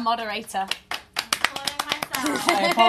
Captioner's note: applause